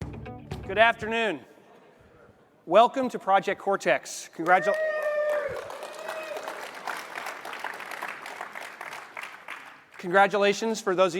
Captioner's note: applause